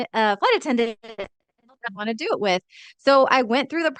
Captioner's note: speaks faintly